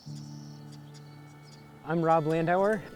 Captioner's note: insects chirping